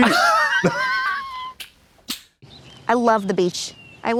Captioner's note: Blonde Women splutter and slap